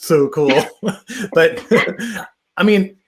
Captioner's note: chuckles